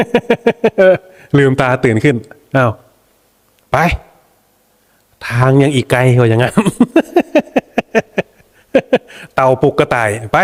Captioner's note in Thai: เสียงหัวเราะ; เสียงหัวเราะ